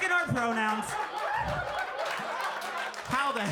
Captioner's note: audience laughing